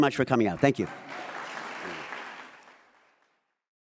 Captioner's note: audience applauds